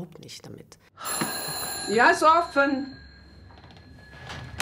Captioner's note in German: Türklingeln